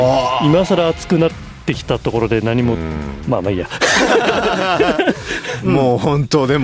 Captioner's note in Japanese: 笑い